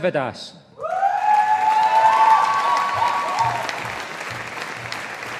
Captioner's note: audience applauding